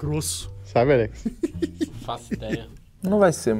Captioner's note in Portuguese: risadas